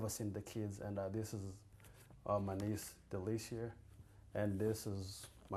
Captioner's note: non-english